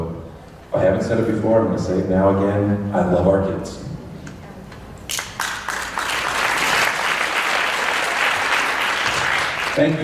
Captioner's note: applause